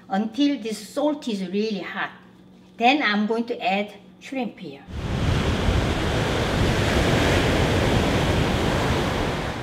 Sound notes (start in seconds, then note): 4.9 crashing waves